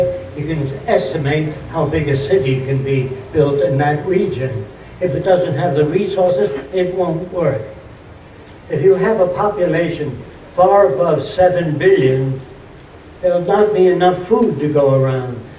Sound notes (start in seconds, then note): none